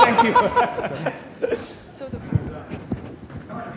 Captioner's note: laughing